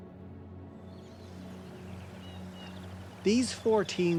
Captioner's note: birds chirping